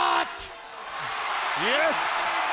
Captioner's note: audience cheers